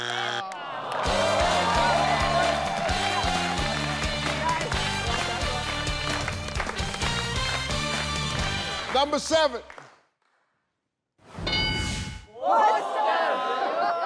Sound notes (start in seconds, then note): 0.8 people gasping; 2.8 upbeat music